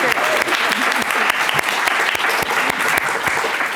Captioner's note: applause